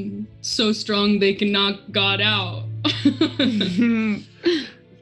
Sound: laughs

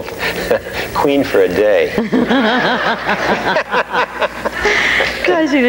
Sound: laughing; all laughing

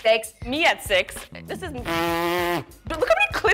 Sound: blows raspberry

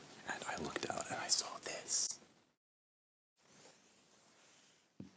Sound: whispering

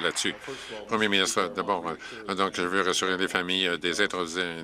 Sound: some Applause

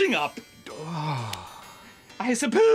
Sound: sigh

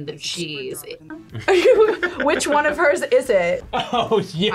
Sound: laughs

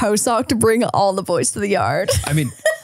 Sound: laughs

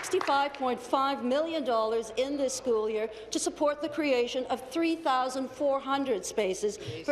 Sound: applause

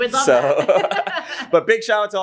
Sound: both laugh

